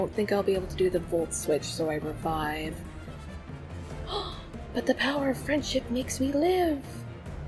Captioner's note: gasp